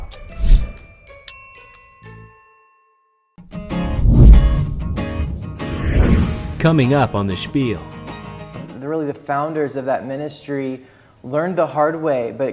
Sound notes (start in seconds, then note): 1.3 bell dings; 6.9 voiceover